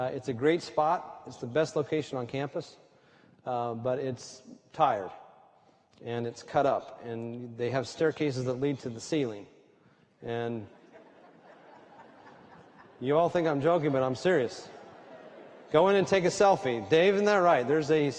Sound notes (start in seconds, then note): 10.7 laughter